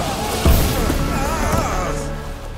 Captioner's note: he yells